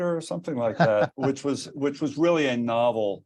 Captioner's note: chuckles